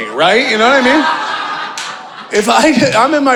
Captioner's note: audience laughing